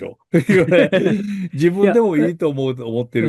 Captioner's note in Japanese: 笑い